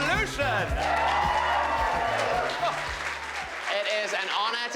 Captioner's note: crowd clapping and cheering